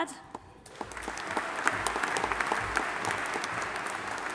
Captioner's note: audience applauding